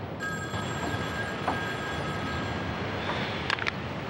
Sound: phone rings

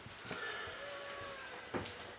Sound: sighs

